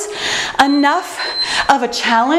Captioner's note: bell dinging